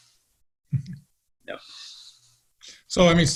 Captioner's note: chuckles